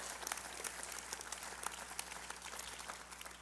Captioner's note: applause